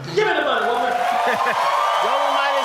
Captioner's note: cheering